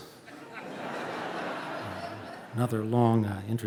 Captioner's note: audience laughing